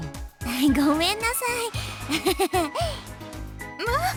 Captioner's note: awkward laugh